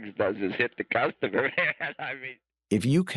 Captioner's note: laughs